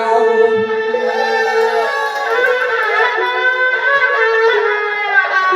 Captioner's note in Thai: ปรบมือ